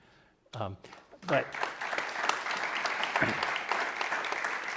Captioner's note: audience applauding